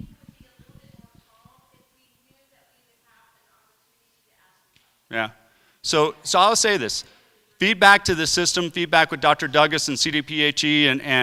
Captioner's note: crowd asking questions